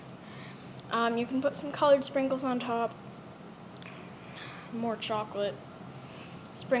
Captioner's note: nervous inhale